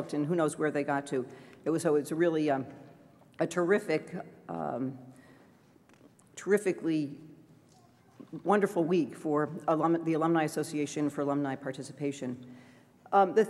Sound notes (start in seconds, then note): none